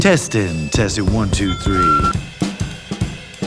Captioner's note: microphone feedback ringing; upbeat music